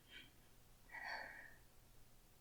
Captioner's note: sigh